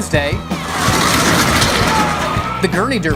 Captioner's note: gurneys going fast